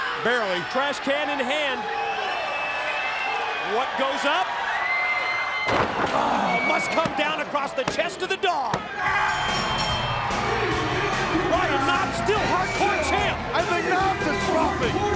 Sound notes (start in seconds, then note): 9.3 bell ringing